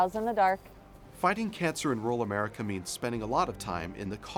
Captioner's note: voiceover